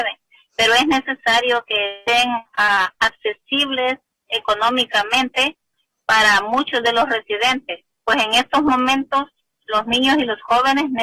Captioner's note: speaking spanish